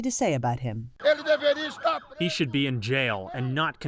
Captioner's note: through translator